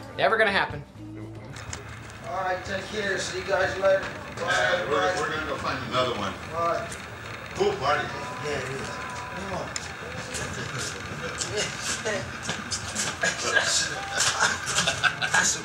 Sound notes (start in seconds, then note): 2.1 voiceover; 6.2 voiceover; 15.4 Mammo Guy laugh